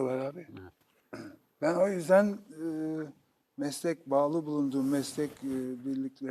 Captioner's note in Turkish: boğazını temizler